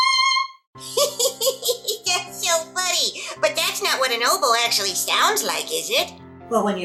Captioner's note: laughing